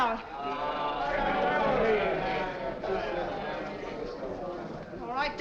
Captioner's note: crowd moans